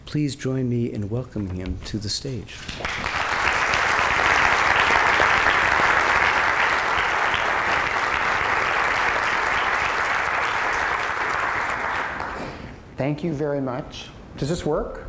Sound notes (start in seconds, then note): 2.6 applause